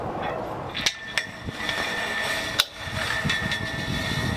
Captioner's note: metals creaking